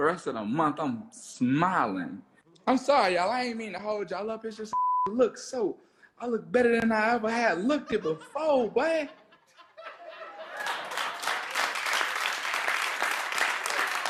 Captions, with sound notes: The rest of the month, I'm smiling. I'm sorry, y'all, oh, I ain't mean to hold y'all up. (beep) I look better than I ever had. Look, people, faux white. (audience laughs and applauds)